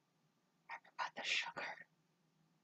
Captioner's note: whispers